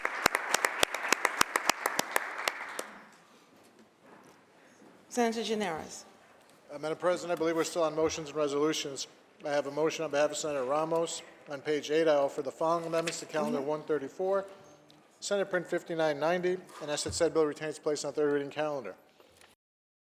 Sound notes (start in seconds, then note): 0.0 applause